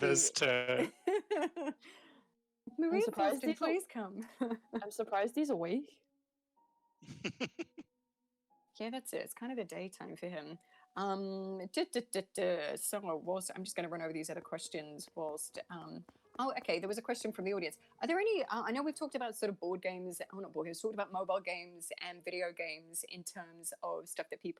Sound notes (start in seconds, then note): 7.1 giggling